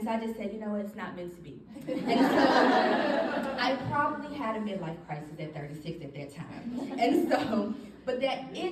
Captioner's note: audience laughing